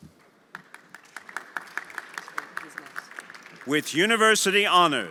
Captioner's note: everyone applauding